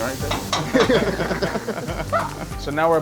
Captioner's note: laughs